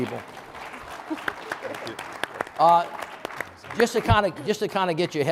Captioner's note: audience applauding